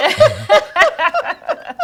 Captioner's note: RuPaul laughing